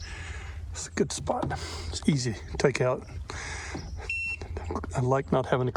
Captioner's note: GPS - beep